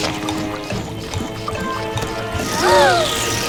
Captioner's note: gasp; sheepish chuckles